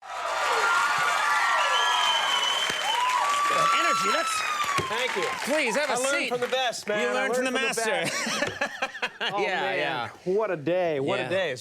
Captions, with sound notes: (audience cheers) The energy. That's- Thank you. Please have a seat. I learned from the best, man. You learned from the master. (laughs) Oh, man. What a day, what a day.